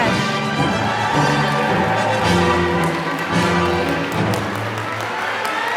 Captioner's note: applause